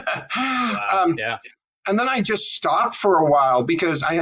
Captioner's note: laugh